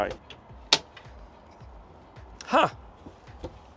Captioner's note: door clicks